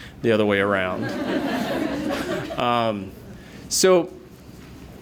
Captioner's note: laughter